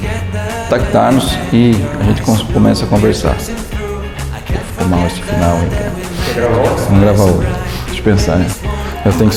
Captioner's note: laughs